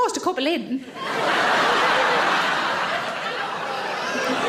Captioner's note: audience laughing